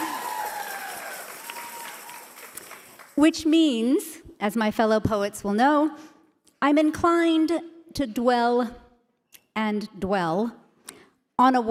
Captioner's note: cheers and applause